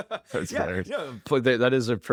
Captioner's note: laughs